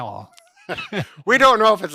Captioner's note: both laughing